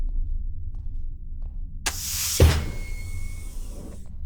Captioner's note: the panel door hissing open